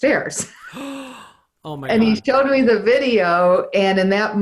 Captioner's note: laughs; gasps